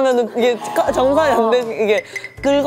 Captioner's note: BEEP Payment declined